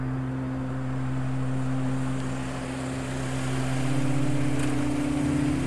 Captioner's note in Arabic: محرك السيارة يدور